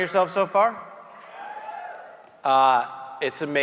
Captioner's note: audience members cheering